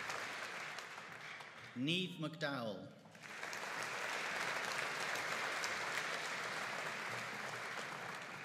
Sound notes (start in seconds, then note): 3.1 audience applauding